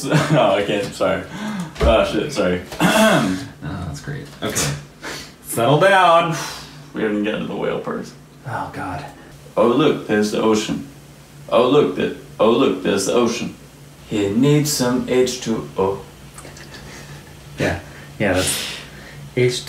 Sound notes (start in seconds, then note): 2.7 clears throat; 18.0 laughing